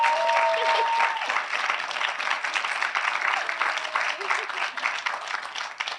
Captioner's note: audience continue applauding